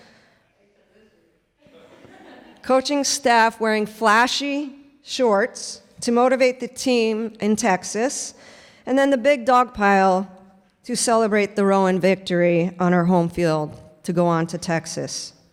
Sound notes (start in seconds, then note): 1.6 laughter